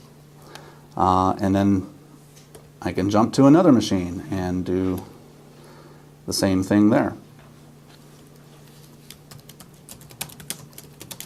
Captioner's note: typing sound